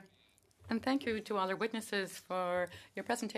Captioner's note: speaking French